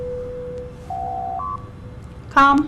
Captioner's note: door Chime